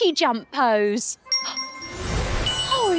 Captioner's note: magic chime